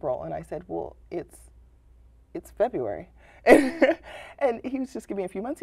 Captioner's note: laughter